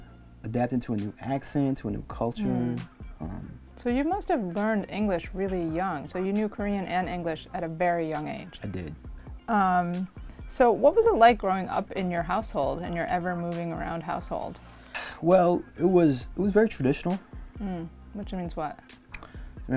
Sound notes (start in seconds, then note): 14.8 sighs